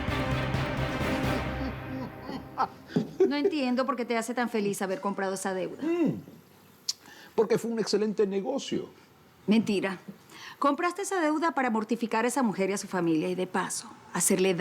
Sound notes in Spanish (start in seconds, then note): 3.3 Risas